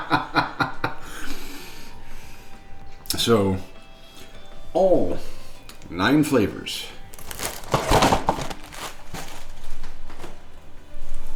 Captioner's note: laughing